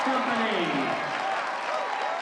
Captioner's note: applause